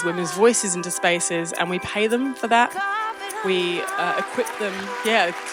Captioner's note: audience applauds